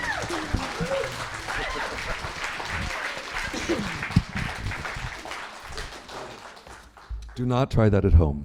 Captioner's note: applause